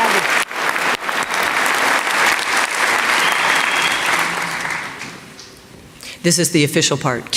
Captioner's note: applause